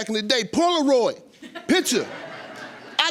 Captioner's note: audience laughing